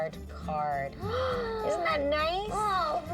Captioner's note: gasping